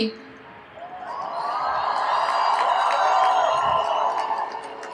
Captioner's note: crowd cheers